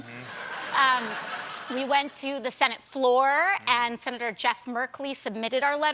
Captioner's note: laughter